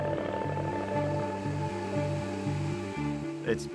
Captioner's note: blades whirring